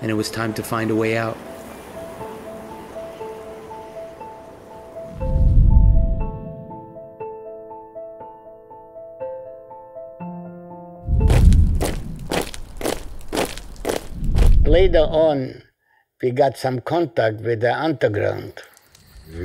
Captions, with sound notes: and it was time to find a way out. (soft uneasy music continues) (feet rhythmically pounding) - Later on we got some contact with the underground.